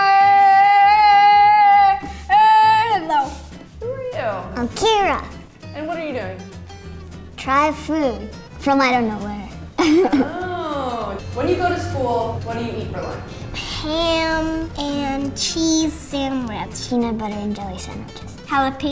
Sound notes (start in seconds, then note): 9.8 laughs